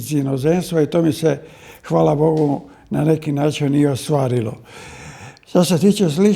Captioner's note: sigh of surprise